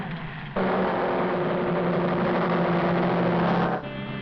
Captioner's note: bullet car rumbles